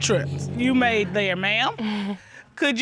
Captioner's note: chuckles